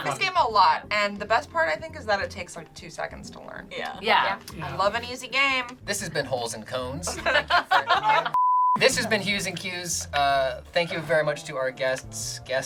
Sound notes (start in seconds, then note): 7.0 group laughs; 8.3 beep